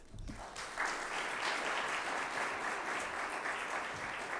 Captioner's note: audience applauding